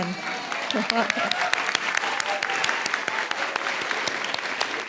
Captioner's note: audience cheers and applauds